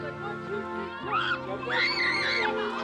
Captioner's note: screams